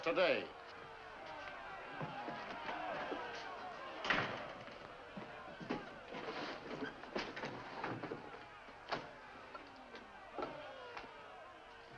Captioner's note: angry mob yelling outside